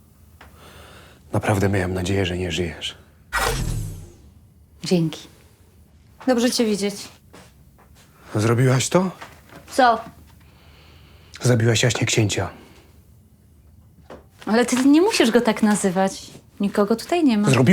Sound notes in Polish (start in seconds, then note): 3.3 Dźwięk rozładowania pistoletu laserowego